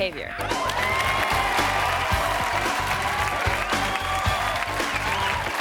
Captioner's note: audience applauding and cheering